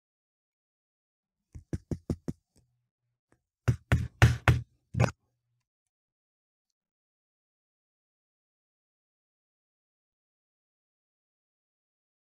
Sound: tapping sounds

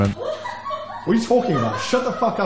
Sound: laughs

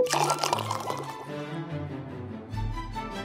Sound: pours

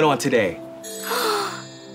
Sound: gasping

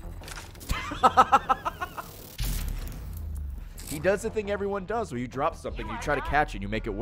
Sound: laughs

